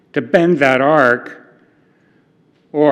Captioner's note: none